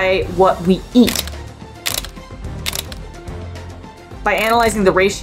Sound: background music; camera click sound effects

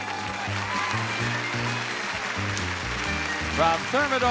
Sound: audience applauding

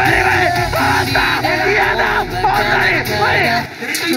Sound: punishment game guy screaming on top of his lungs!

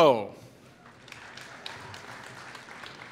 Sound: applause

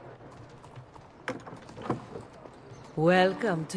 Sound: door opens

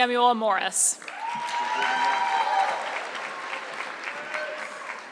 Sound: audience clapping

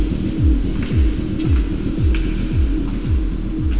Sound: buzzing

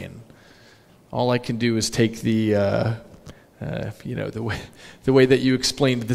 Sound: laughs

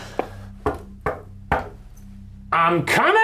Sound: knocking

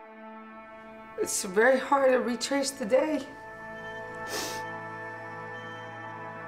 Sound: sniffs

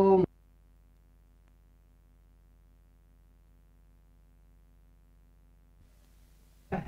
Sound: end of first tape - Silence

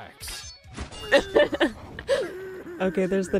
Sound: laughs

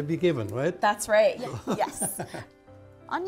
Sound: laughs

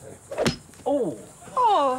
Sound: golf club hit

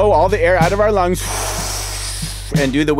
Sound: exhales

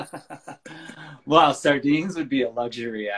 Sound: laughing

